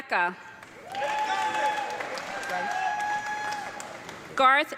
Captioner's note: audience clapping and cheering